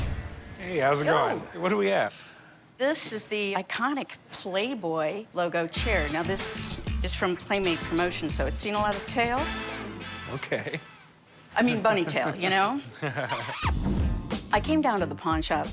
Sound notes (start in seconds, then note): 10.3 Chum and Corey laugh; 10.3 chuckles